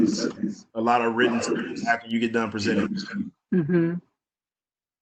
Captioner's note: murmurs